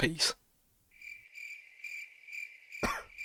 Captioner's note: crickets chirping; distant cough; crickets chirping